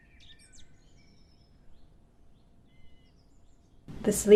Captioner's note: birds chirping